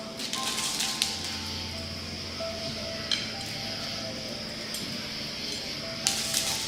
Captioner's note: crickets chirping; tranquil piano music